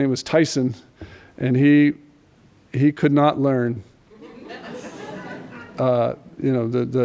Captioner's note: laughter